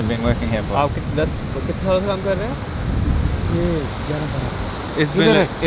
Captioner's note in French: Langue locale